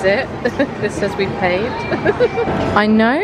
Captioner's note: laughing